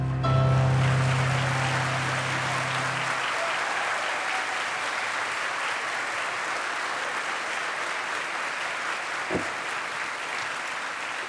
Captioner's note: applause